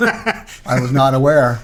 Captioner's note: laughing